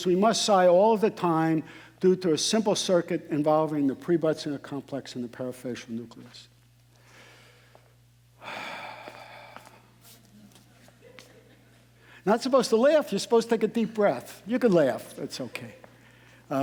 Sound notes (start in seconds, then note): 8.4 sighing; 8.5 audience laughing